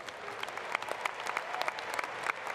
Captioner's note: applause